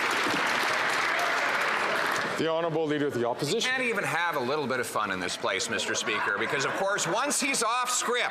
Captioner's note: some Applause